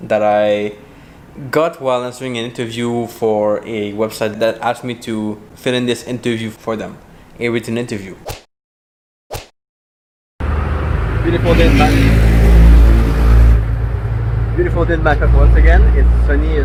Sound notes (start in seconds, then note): 10.4 motorbike engine roaring